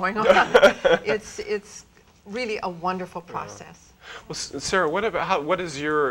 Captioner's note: laugh